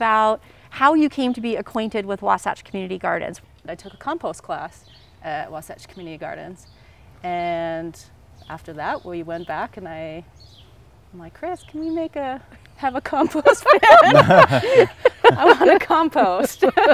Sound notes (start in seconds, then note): 13.2 everyone laughs